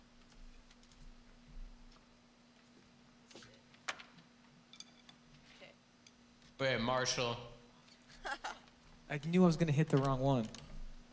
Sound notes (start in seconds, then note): 8.0 laughs